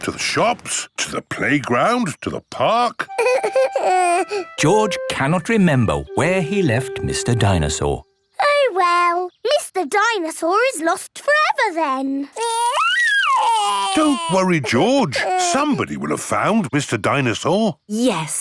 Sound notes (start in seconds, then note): 3.2 whimpers; 12.4 crying